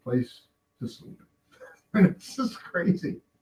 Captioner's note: laughing